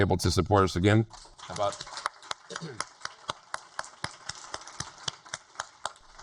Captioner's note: applauds